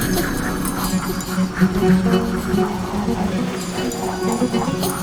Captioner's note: heavy breathing